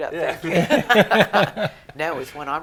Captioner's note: chuckling